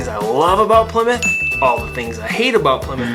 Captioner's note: graphics ding